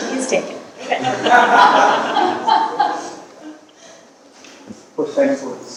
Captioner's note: audience laughing